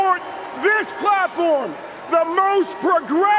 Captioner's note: cheers and applause